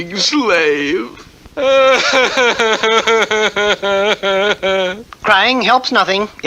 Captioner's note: King Cup cries hard